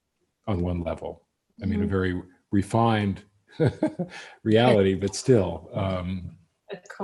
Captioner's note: laughs